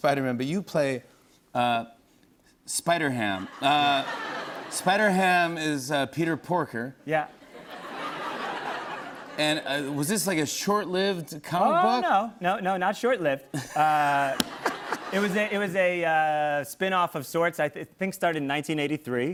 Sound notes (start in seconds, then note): 3.4 laughter; 7.4 laughter; 13.5 laughter